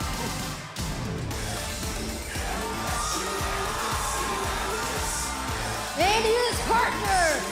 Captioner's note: crowd cheering